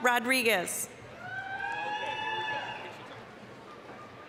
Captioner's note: applause, cheering